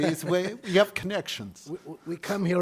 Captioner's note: laughing